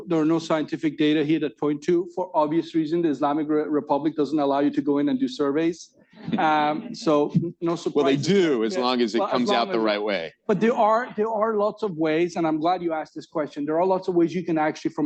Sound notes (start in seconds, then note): 6.2 laughter